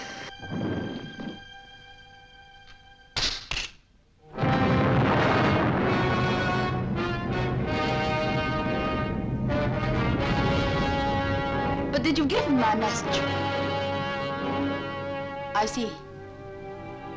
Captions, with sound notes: (thudding) (gun clanking) (volcano rumbling) (dramatic music) - But did you give him my message? I see.